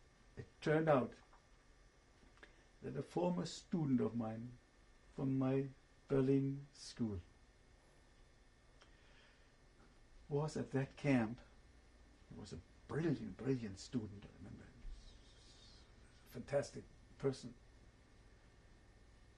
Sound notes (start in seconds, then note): 7.7 pauses for 3 seconds